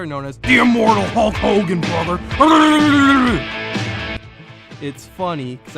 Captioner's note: growling noise